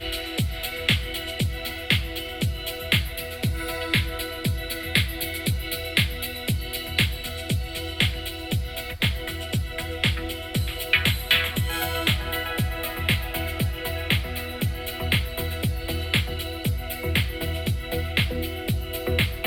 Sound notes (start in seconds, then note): 10.7 less sizzling